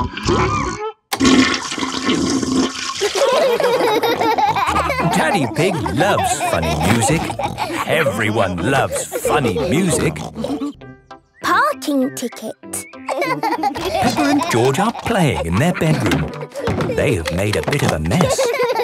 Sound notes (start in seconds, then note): 1.2 toilet flushing; 3.0 laughter; 13.0 laughing